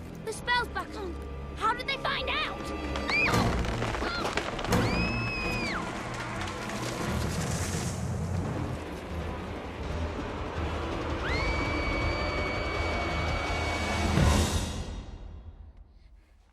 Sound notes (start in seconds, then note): 2.8 shrieks; 11.2 shrieks